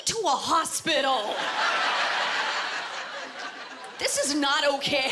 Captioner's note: laughter